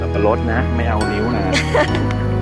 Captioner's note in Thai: เสียงหัวเราะ